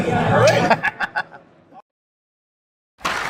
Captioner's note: laughing